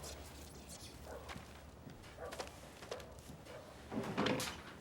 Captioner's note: dog barking